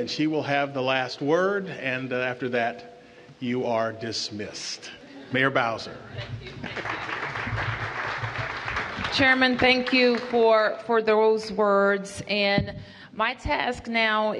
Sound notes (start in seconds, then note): 6.4 applause